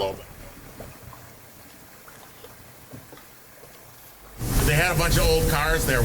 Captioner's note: water gurgling and murmuring